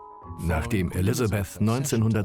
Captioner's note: voiceover